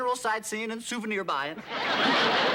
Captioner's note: laughter